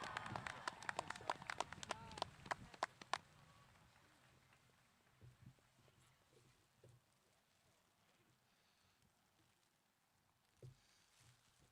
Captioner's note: cheering and applause